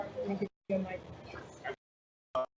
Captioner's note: overlapping chattering